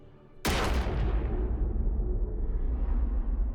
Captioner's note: bang